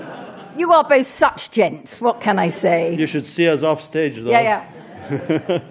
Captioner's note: laughter